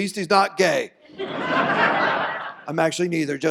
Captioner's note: audience laughs